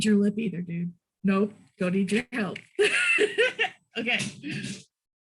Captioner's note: laughs